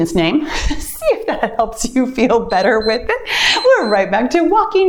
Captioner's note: timer beeps